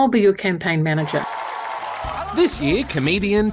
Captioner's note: applause